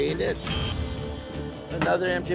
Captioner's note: buzzer blares